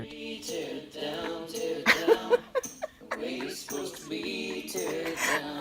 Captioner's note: folk music; laughing